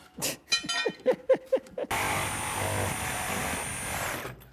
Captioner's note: laughing